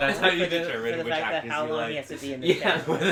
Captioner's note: laughing